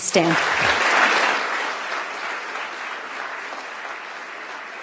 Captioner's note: audience clapping